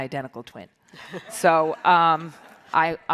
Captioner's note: audience laughs